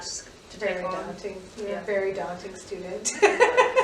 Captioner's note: laughing together